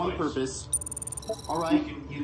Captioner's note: computer beeps